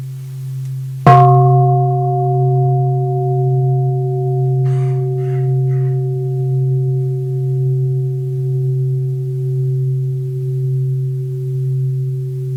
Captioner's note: second sound of the bell